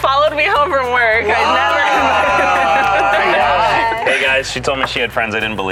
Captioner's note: group exclaims